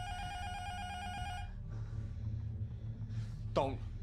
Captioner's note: intercom buzzer rings